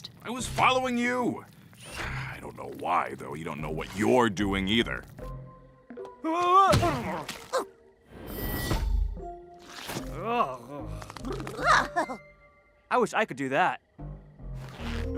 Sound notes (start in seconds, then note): 6.7 muddy thud; 8.3 whoosh; 8.8 pop